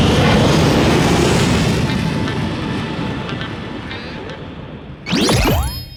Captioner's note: whoosh